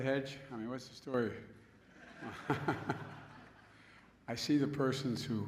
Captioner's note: laughter